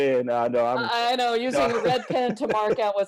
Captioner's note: laughter